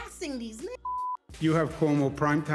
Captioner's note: beep